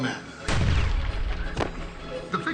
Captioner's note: gunshot